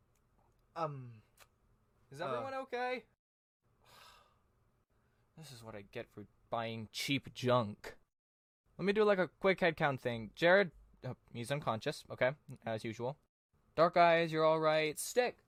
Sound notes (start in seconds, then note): 3.8 sigh